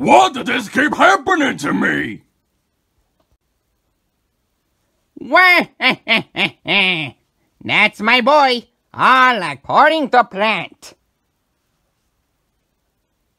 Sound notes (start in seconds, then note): 5.2 laughs